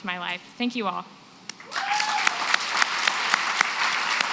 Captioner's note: applause